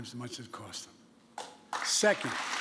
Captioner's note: applause